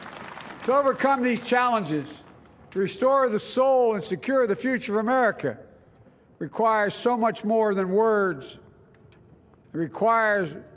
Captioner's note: applause